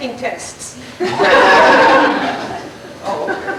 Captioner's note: laughter